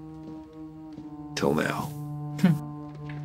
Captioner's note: chuckles